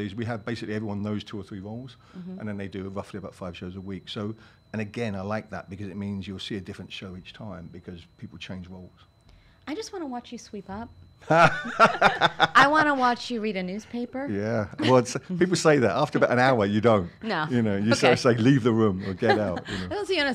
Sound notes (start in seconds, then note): 11.3 laughs